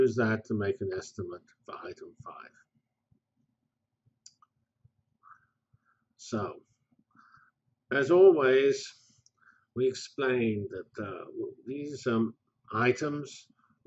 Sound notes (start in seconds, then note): 1.8 pause